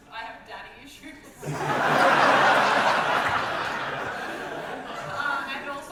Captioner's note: audience laughter